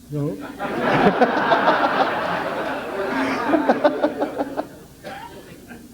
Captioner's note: general laughter